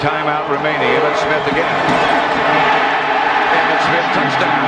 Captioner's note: crowd cheering